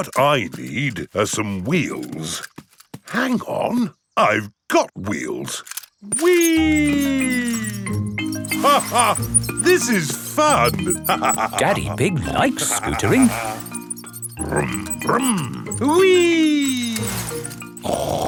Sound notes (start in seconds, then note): 0.0 snorts; 9.0 laughs